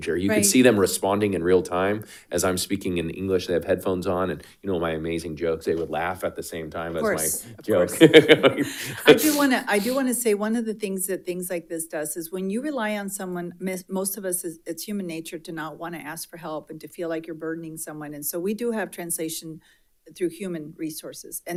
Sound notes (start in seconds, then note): 7.0 laughs